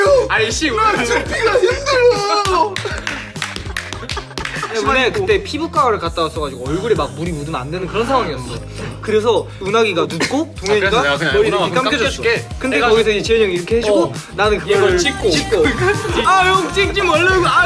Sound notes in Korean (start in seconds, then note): 2.2 박수 소리; 2.7 웃음